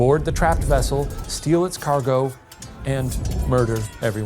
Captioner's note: screen whooshing; swords clanging; wreckers yelling